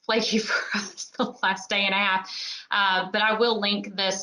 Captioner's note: laughs